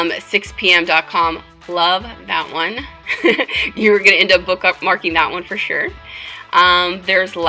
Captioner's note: giggle